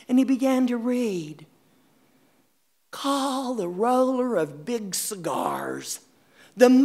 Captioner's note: reciting 'The Emperor of Ice Cream'